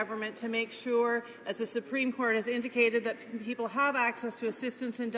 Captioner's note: none